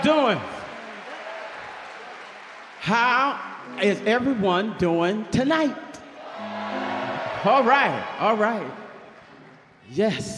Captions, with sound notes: How y'all doing? How is everyone doing tonight? (audience cheers) All right, all right, yes.